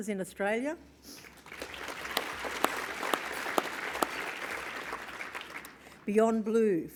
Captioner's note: applause